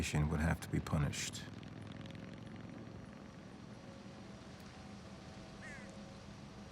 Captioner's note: motorcycle engine buzzing; bird cawing